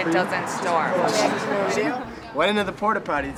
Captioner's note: group chattering